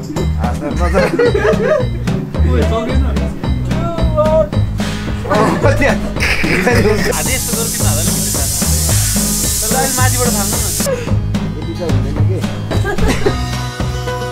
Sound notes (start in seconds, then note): 0.9 excited laughter; 3.9 laughing